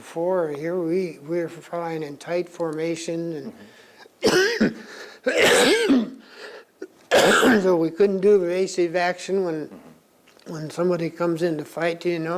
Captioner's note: coughs